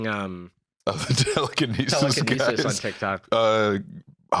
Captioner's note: laughing